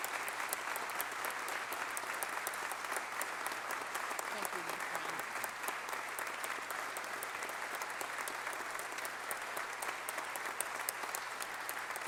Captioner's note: applause